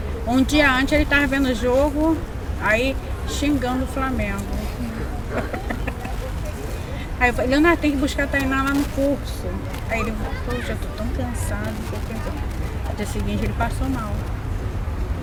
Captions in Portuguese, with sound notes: Um dia antes ele tava vendo jogo xingando o Flamengo [risada] Aí eu falei “Leonardo, tem que ir lá buscar a Tainá no curso” Aí ele “Poxa, tô tão cansado”... No dia seguinte ele passou mal